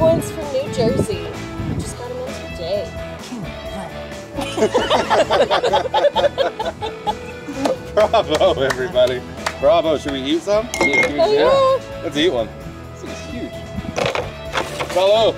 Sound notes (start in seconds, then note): 3.3 laughs; 7.5 clapping; 15.1 speaking in foreign language